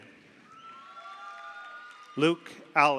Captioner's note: audience applauds; audience cheers